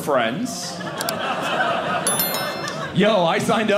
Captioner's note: audience laughing